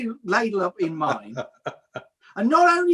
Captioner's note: laughs